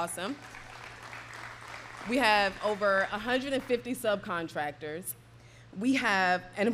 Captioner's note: applause